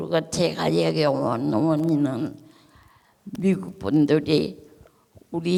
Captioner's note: speaking in foreign language